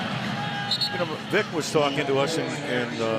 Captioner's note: whistle